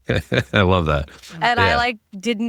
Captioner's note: laughing